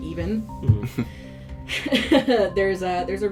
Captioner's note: chuckles awkwardly at themself